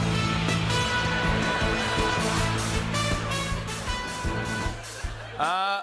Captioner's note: laughter